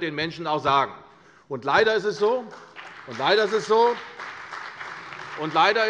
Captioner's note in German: Beifall bei der CDU und dem BÜNDNIS 90/DIE GRÜNEN